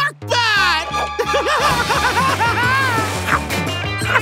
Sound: laughing

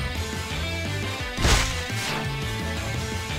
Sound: sounds of rat being squished by even more boulders

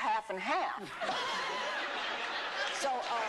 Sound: laughter

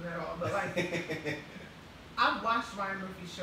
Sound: laughing

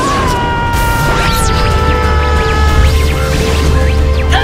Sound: electric zapping anomaly

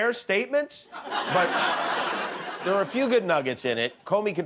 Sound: laughter

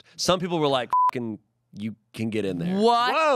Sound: beep

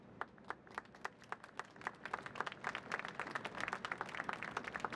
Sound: audience clapping

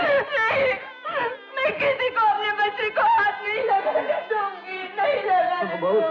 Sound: crying

